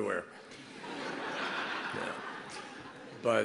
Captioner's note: laughter